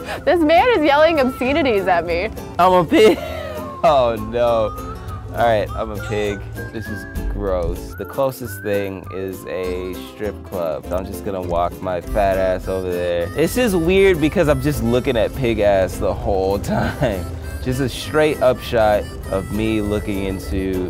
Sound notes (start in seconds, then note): 2.8 laughs